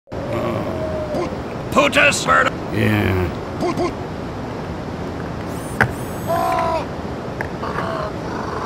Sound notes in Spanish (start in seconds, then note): 0.2 sigh; 7.6 crows